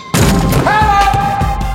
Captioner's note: dunk sound